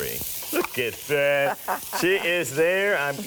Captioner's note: laughs